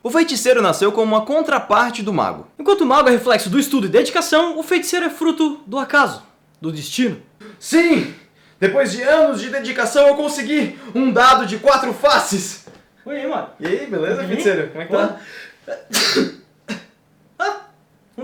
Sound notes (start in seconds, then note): 15.7 arcane sneeze